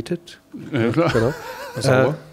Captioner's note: lacht